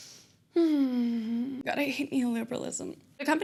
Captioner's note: sigh